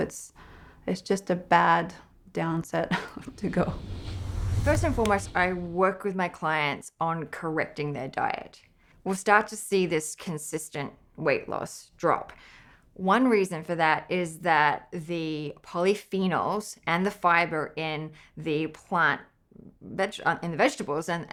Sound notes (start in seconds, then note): 2.9 whooshing